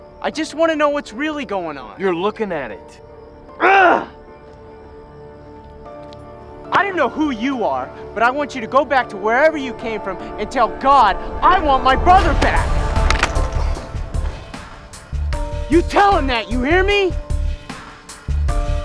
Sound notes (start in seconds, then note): 13.0 body thudding; 13.0 crutches clinking